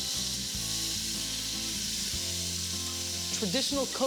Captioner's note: onions sizzling